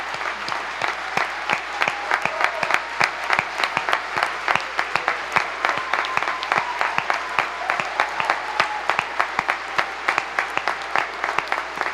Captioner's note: applause